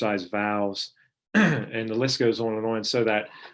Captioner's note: clearing throat